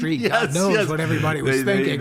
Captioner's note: laughs